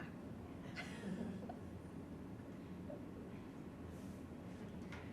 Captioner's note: women laughing softly